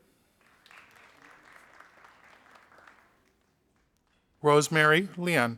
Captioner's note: audience applauding